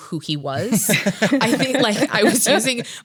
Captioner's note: laughs